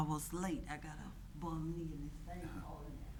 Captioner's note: speaking distantly